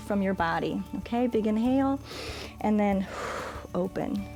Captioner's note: exhales; inhales